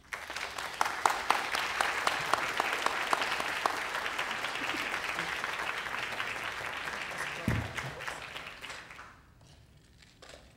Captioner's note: applause